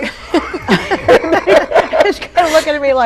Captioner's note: laughs